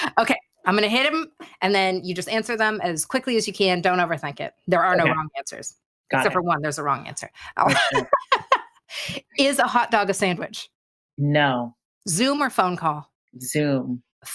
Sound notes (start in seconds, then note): 0.0 laughs; 7.6 laughs